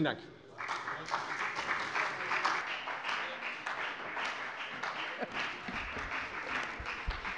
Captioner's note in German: Beifall bei der FDP